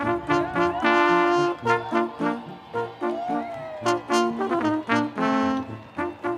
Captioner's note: applause